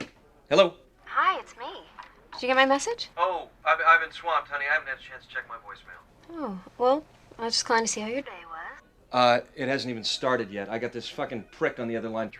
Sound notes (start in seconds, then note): 1.4 on phone; 3.5 on phone